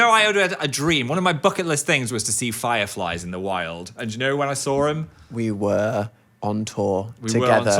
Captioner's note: none